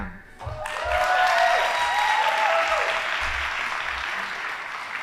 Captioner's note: audience applauding